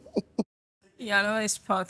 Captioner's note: laughing